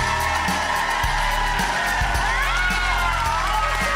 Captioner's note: cheering; music